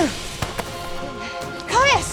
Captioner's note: grunt